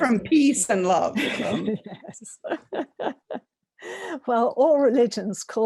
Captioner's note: laughs